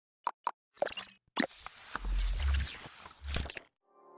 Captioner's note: mechanical whirring